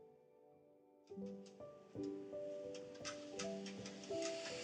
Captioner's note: keyboard clicking